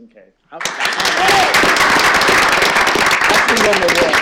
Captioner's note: applause